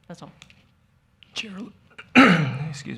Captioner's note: clears throat